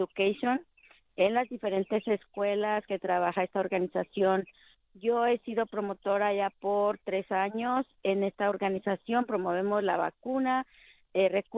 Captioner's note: speaking spanish